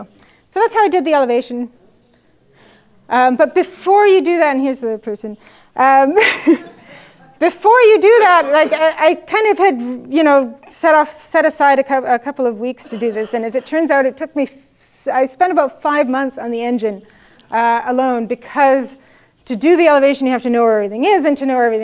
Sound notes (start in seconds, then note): 8.0 laugh